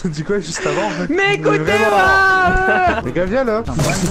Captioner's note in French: pleure